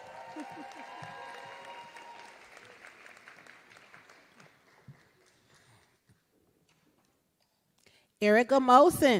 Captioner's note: applause